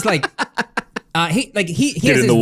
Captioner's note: laughs